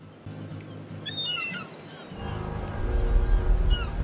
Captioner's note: gulls squawking; ominous music